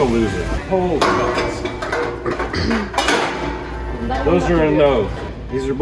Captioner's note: clanging sounds